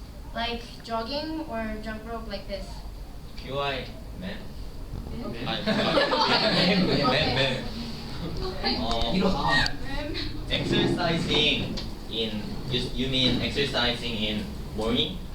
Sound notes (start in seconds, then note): 5.6 laughter